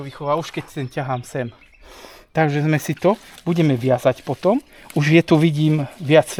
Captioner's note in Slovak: smrkanie